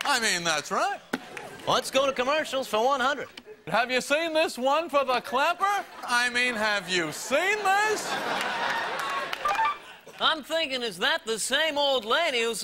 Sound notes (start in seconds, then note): 7.4 audience claps; 8.3 audience chuckles; 9.4 buzzer rings